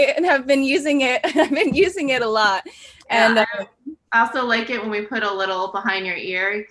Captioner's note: laughs